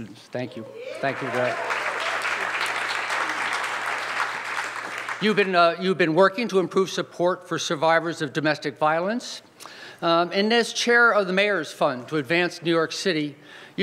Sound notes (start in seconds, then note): 0.8 audience applauds